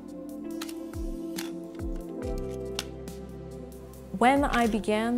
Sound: shutter clicking

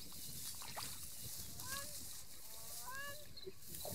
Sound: birds call

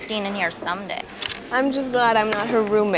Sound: camera shutter clicks

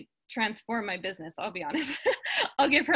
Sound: laughs

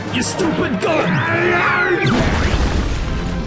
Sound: screaming

